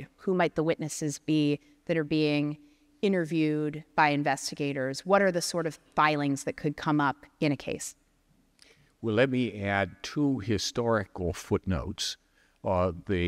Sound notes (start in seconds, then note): none